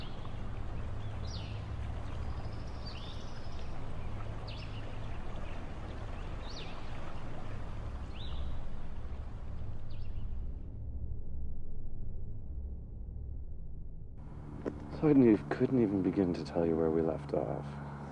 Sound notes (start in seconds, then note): none